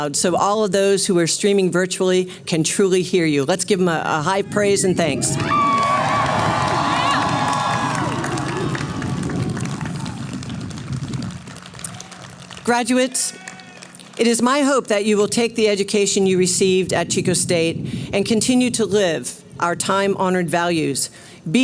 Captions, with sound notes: so all of those who are streaming virtually can truly hear you. Let's give them a high praise and thanks. [Cheering] Graduates, it is my hope that you will take the education you received at Chico State and continue to live our time honored values.